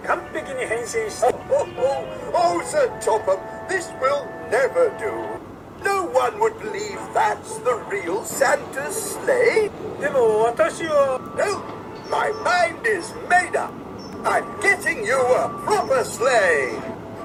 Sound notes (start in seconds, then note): 1.1 laughing heartily